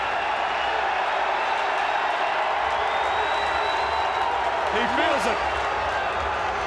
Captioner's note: crowd cheering